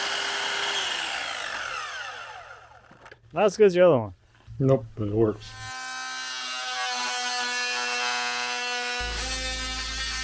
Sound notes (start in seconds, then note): 5.3 saw buzzing